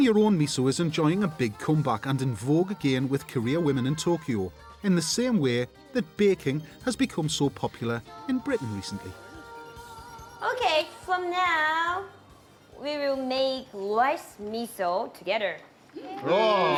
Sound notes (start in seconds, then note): 10.2 indistinct chattering